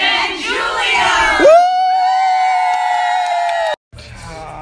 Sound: cheering

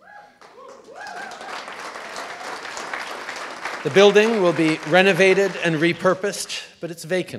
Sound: cheers & applause

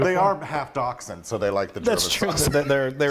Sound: laugh

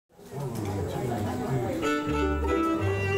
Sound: crowd chattering; inspirational music

